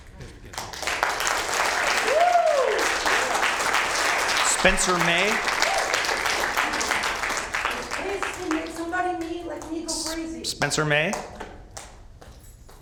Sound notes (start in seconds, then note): 2.7 applause